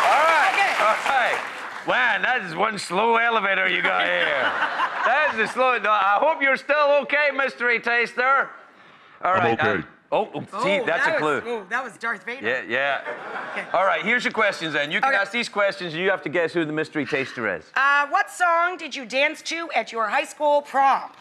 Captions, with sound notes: All right! Wow, that is one slow elevator you got here. (laughter) That is slow. I hope you're still okay, mystery taster. (in deep voice) I'm okay. See, that's a clue. That was Darth Vader. Yeah, yeah, all right, here's your questions. And you can ask these questions, and you have to guess who the mystery taster is. What song did you dance to at your high school prom?